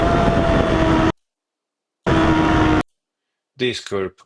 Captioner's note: tires screeching